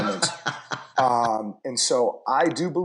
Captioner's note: laughter